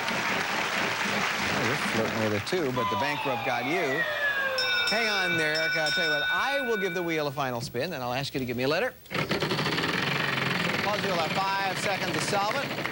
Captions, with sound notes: YOU'RE FLIRTING WITH IT, TOO, BUT THE BANKRUPT GOT YOU. [BELL RINGS] I WILL GIVE THE WHEEL A FINAL SPIN. I'LL ASK FOR A LETTER TO THE PUZZLE. YOU'LL HAVE FIVE SECONDS TO SOLVE IT.